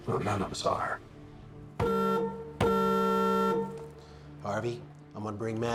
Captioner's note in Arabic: بوق البوق